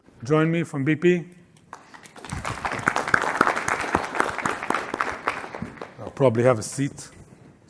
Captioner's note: applause